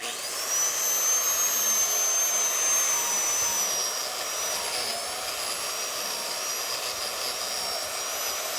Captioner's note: grinder running